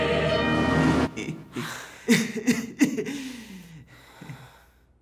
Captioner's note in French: tousser